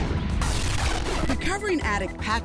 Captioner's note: static